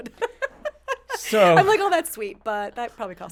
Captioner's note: laughing